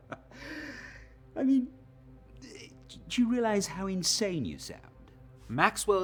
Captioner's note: laughs